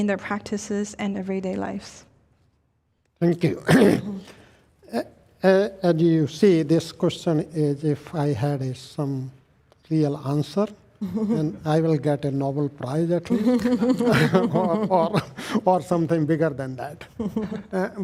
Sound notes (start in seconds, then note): 3.6 clears throat; 13.2 all chuckling